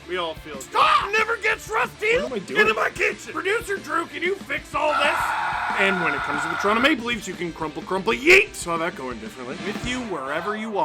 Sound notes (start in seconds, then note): 4.8 screaming